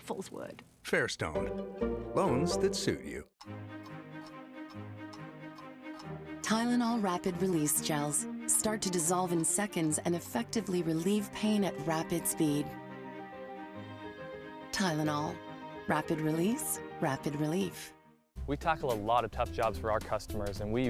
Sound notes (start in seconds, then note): 5.6 clock ticking